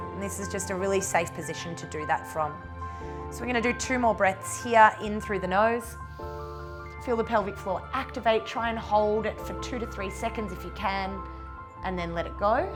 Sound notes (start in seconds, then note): 6.1 inhales